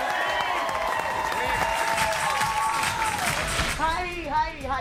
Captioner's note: audience cheering and applauding